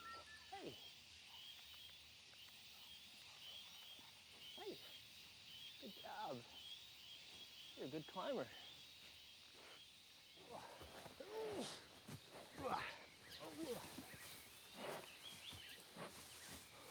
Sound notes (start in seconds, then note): 12.5 grunting